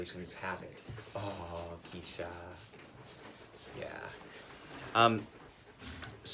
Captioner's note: talking to the dog